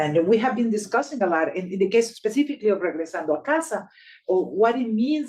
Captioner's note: speaking Spanish